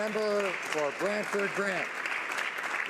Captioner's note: some Applause